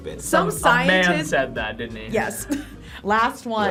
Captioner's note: laughs